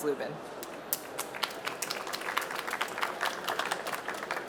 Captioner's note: applause